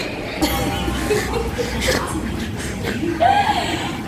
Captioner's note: laughing